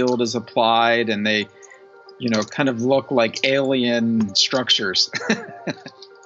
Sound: laughs

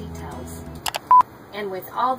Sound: beeping

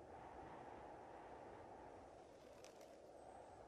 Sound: wind blows quietly

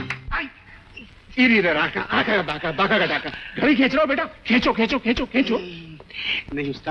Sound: humming nonsense lyrics

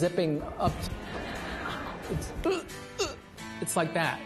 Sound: moans

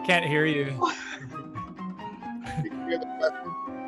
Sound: suspenseful music; chuckling

